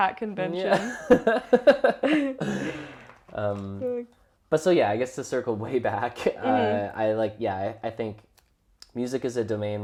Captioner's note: laughs